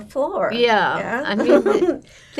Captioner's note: laughing